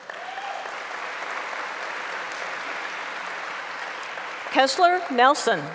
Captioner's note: applause